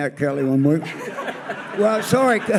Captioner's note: audience laughs